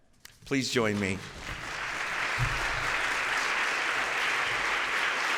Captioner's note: applause